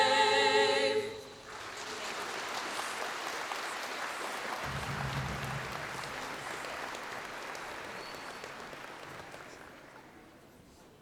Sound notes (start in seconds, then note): 1.4 applause